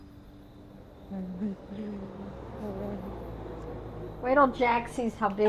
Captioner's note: humming